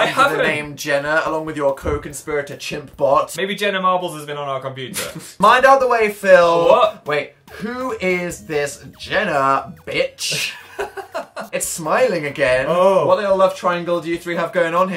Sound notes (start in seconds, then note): 4.9 cute laugh; 10.3 laughs